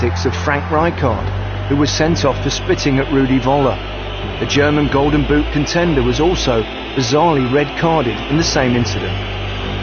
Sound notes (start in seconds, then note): 5.3 crowd booing and whistling